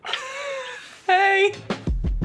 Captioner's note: quietly laughs